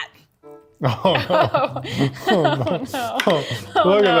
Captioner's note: laughs